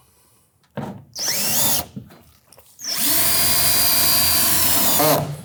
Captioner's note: drill whirring